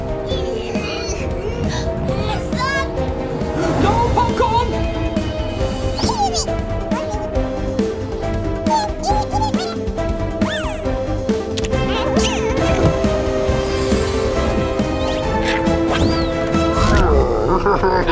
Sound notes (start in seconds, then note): 0.5 straining/efforts; 1.9 gasp